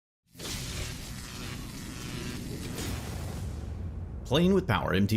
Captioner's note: lightning crackles, hisses